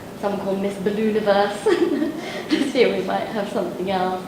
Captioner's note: laughs